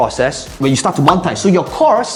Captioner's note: bubble popping